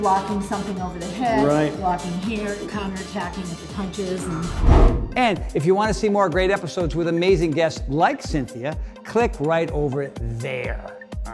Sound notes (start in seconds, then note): 4.4 air whooshing